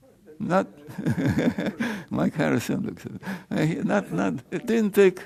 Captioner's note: chuckles